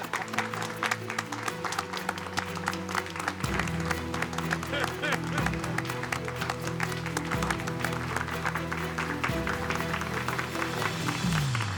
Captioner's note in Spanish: Aplausos